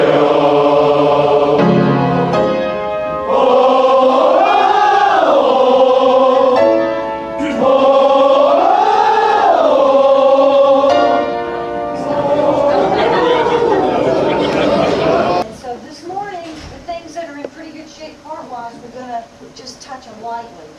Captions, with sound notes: (crowd chatter overlapping) And so this morning, the things that are in pretty good shape part-wise, we're gonna just touch on lightly